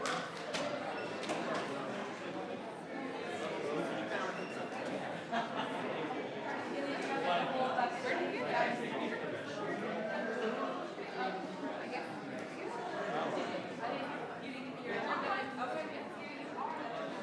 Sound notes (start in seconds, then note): 5.1 members laughs; 7.4 members chattering